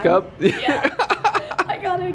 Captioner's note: laughter